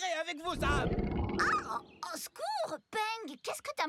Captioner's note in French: grognement fort